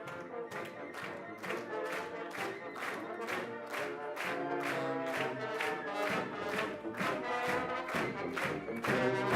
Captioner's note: marching band music; clapping in rhythm